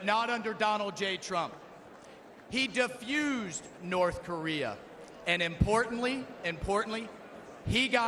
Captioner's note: none